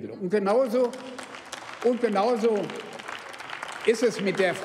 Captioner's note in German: Beifall beim BÜNDNIS 90/DIE GRÜNEN und bei der LINKEN